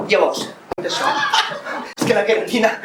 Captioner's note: laughs